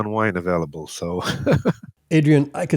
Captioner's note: laughs